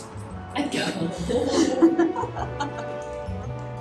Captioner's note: laughter